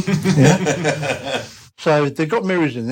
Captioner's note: laughter